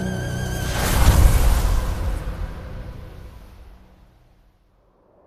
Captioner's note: sandstorm